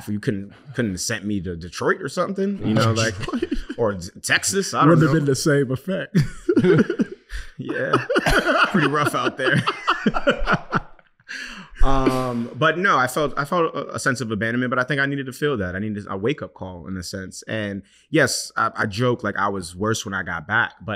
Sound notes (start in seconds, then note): 6.1 laughing; 6.1 chuckles; 10.0 laughing